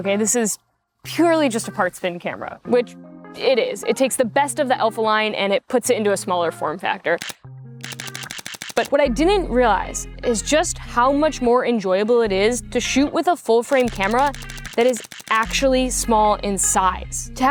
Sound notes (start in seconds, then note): 7.8 shutter clicking; 9.0 mellow music